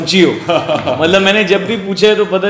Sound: laugh

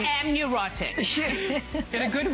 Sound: laughter

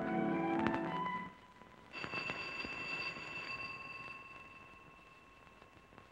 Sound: phone ringing

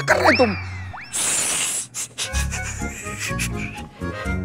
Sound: shushing

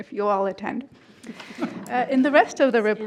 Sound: group laughing

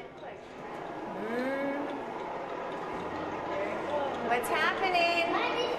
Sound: discs whirring

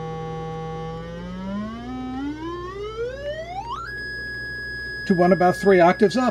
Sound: droning increases in pitch

